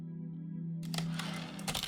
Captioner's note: typewriter return slide